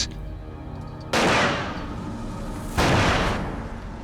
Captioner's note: gunshots